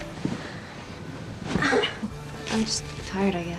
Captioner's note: moaning